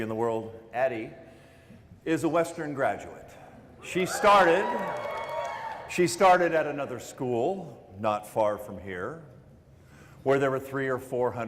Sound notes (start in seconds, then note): 3.9 cheering